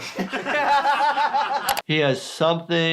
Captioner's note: Jackass members laugh